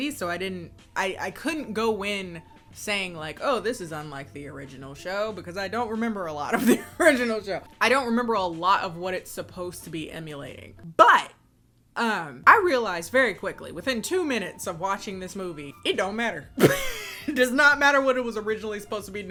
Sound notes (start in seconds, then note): 16.6 laughs